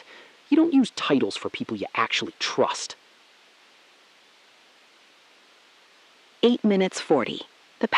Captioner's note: SILENCE — 3 sec